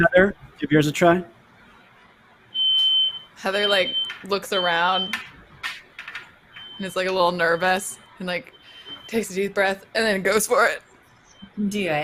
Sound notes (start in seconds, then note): 2.6 electronic squealing